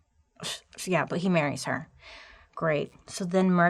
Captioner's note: scoffing